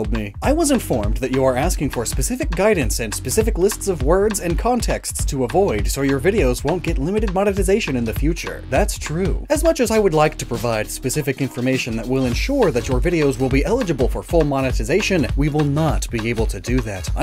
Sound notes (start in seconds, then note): none